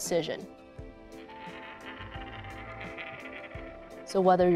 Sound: coin spinning

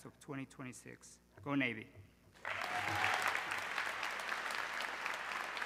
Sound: audience clapping

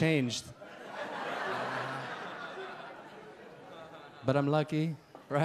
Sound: audience laugh

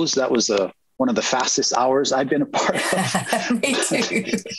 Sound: laughs

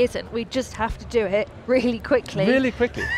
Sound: laughs

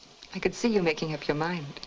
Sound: none

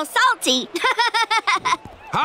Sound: laughing

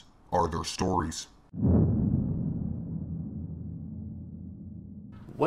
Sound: boom

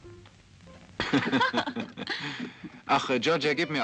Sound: mid-tempo music; both laughing

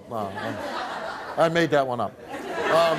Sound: laughing

